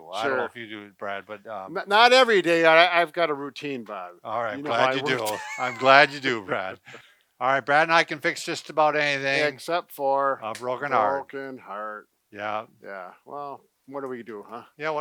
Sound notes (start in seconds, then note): 4.4 laughs